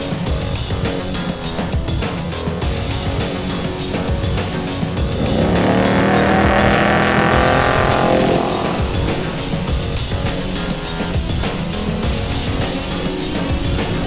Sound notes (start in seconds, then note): 5.9 engine revving; 11.2 upbeat music